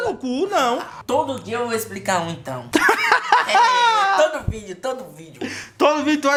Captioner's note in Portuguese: risada